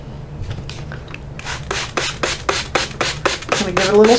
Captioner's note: water sprinkling